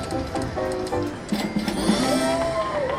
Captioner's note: lively ragtime music; cash register dings; people clap and cheer